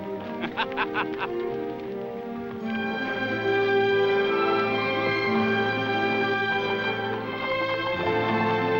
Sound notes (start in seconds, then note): 0.2 somber music; 2.2 laughs